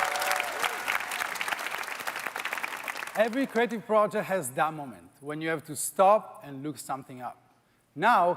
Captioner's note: applause